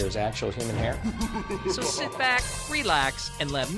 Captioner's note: creepy laugh plays